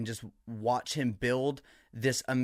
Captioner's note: none